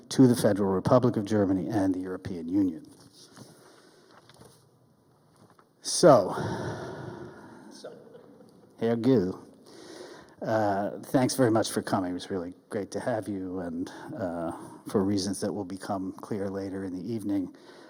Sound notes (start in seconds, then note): 6.3 sighs; 8.0 audience member laughs